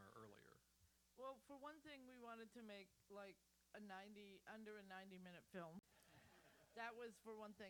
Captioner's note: laughter